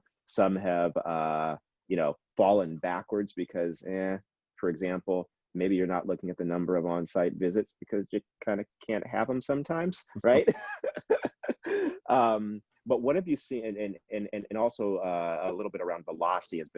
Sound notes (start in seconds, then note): 10.2 laughing